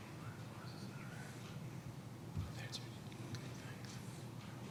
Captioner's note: men whispering